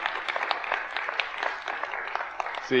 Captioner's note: audience applauds